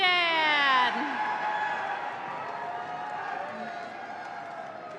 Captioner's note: audience cheering